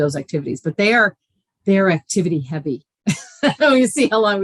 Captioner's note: laughing